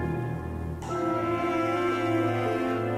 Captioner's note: roaring